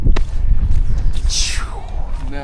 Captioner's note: both make whooshing sound